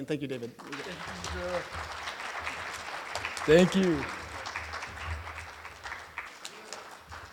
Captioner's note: applause